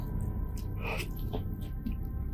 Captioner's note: grunt